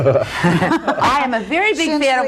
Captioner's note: laughter